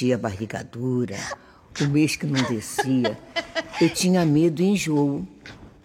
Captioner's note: and then into a joyful motherly laughter